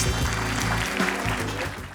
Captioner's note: applause